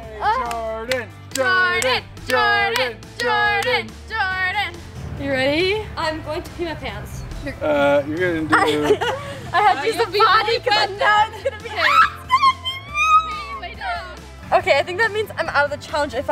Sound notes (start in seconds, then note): 11.8 screams